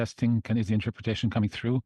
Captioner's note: speaking French